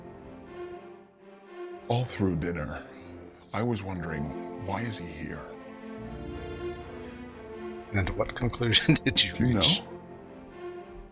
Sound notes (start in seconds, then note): 9.7 chuckling